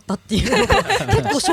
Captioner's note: everyone burst into laughter